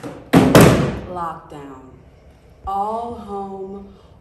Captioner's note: sound of slamming chairs